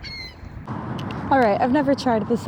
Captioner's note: birds chirping